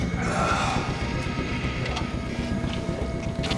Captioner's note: groaning